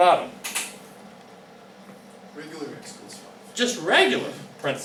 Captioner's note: voiceover